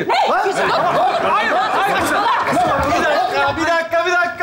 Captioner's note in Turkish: bağrışmalar